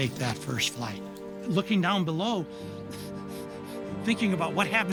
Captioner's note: chuckling